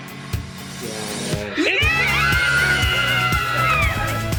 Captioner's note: cheering